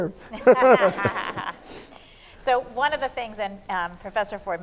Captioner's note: laughs